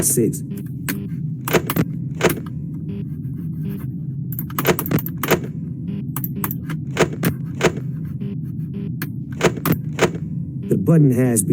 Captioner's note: Sons de mouse